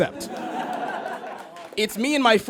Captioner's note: audience laughs; scattered applause